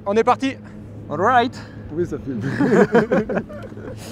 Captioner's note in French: rires